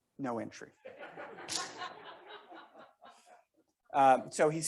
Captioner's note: members laughing